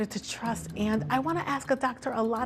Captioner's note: none